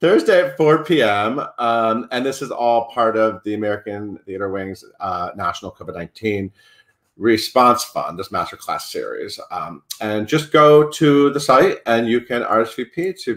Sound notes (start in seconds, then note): none